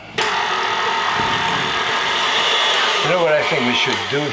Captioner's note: mixer whirring